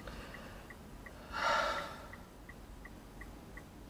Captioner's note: deep sigh